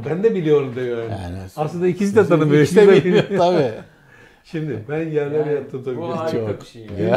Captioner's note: laughter